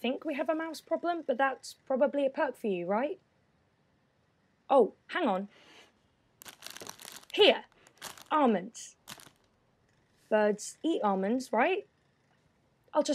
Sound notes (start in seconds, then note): 6.4 the rustling of plastic